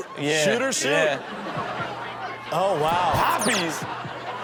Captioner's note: audience laughing